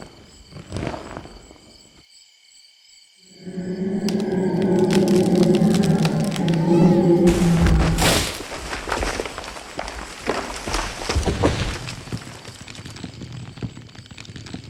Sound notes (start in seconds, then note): 3.4 Bailey gasping for breath; 8.4 gasping; 12.1 wood cracking